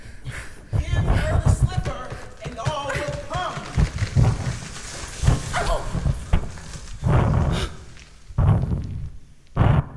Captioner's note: loud thunderous thud